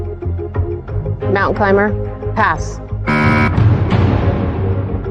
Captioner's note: buzzer sounds